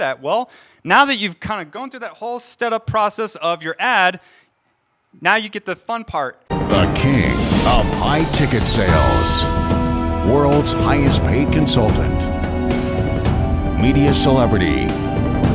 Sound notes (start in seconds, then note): 6.5 voiceover; 9.2 dramatic music